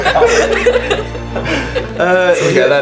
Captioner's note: laughter